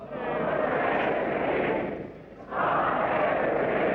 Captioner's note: crowd